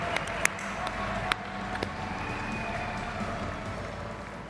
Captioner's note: audience applauding